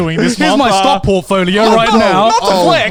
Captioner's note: all laughing